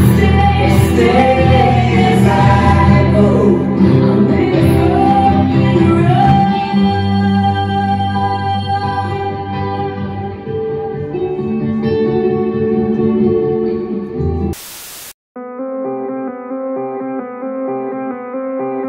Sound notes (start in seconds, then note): 14.5 static noise